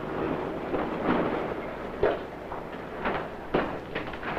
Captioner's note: truck engine roaring